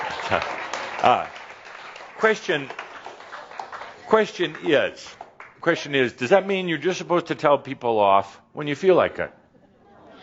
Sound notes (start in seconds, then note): 2.8 some applause